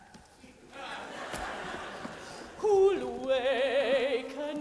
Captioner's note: audience laughs